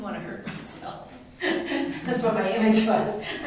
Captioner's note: laughs